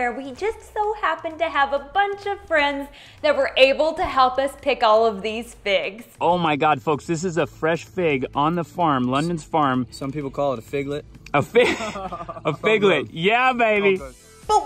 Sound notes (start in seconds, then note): 11.3 laughing